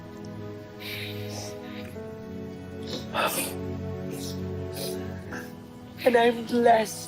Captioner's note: somber music continues; sniffling